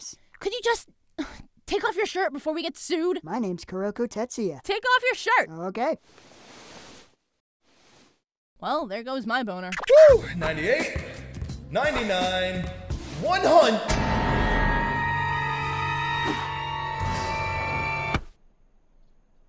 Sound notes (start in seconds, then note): 1.2 sigh